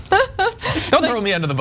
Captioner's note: laugh